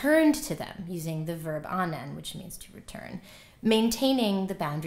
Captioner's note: non-english